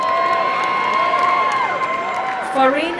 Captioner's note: applause and cheering